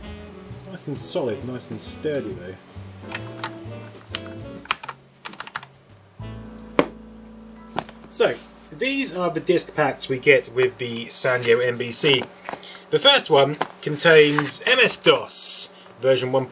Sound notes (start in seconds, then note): 3.0 clicks